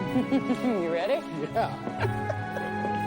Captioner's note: both laugh